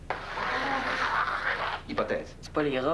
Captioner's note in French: Réactions de dégoût